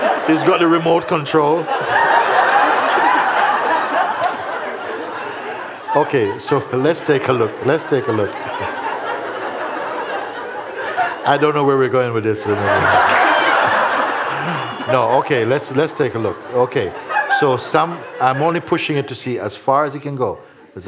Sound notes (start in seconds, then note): 3.3 laughter; 9.6 laughter; 12.4 laughter